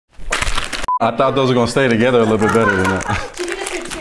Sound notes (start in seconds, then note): 0.1 bags crinkling; 3.1 production laughing